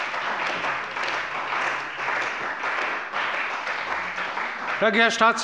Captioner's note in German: Beifall bei der CDU und dem BÜNDNIS 90/DIE GRÜNEN